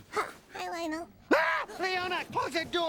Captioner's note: screams